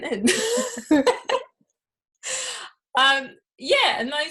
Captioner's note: both laughing